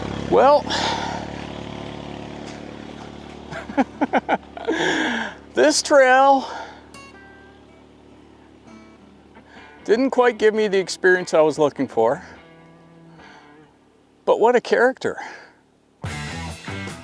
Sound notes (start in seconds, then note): 3.4 laughing